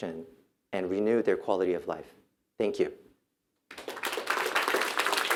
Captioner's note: applause